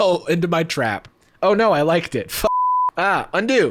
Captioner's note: beep